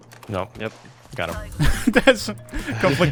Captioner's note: laughter